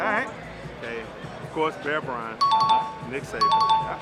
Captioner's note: chime dings